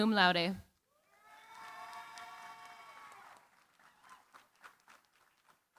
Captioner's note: cheering, applause